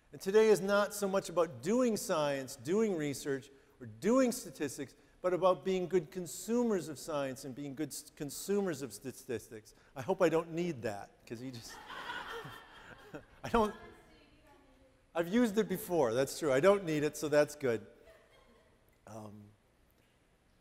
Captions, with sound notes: And today is not so much about doing science, doing research or doing statistics, but about being good consumers of science and being good consumers of statistics. I hope I don't need that, 'cause he just... (audience laughing) I've used it before. That's true. I don't need it, so that's good.